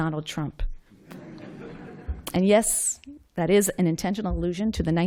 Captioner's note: laughter